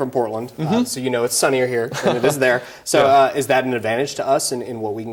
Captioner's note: laughs